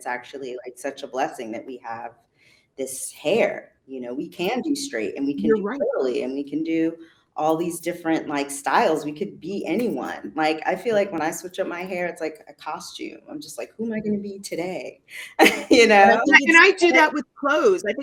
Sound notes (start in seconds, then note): 15.2 laughs